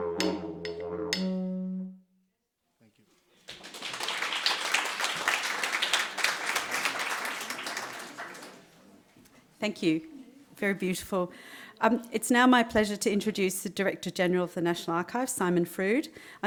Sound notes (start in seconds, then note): 5.0 audience clapping